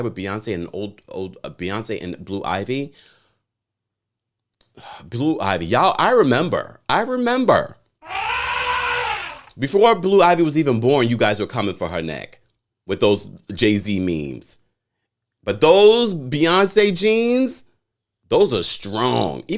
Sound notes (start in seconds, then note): 8.0 elephant trumpets